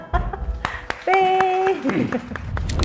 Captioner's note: claps